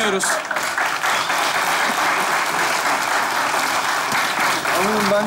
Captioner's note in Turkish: Alkış sesleri